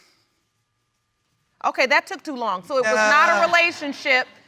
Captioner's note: audience laughs